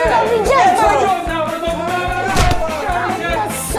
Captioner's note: Shouting louder against Felix